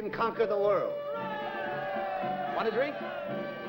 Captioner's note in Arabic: الرجال يهتفون